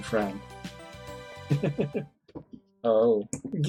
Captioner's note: chuckles